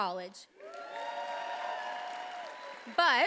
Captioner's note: attendees applauding and cheering